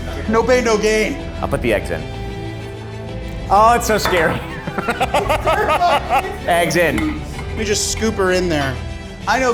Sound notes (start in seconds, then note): 3.6 laughing